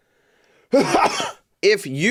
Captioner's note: coughs